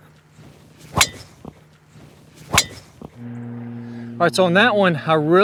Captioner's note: club hitting ball